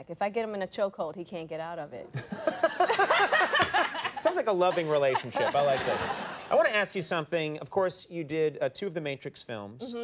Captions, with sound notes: If I get him in a choke hold, he can't get out of it. (all laughing) Sounds like a loving relationship. I like that. (audience laughing) I wanna ask you something. Of course you did two of the Matrix films.